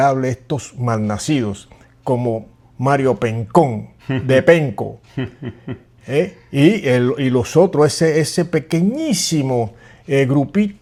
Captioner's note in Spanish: risas